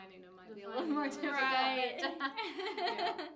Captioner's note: laughing